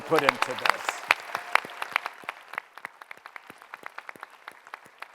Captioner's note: applause